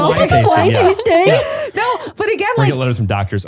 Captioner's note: laughs